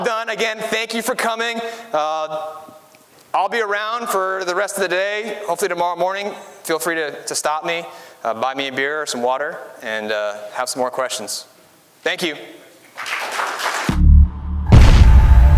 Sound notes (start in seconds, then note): 12.9 applause